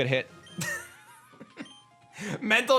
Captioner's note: chuckles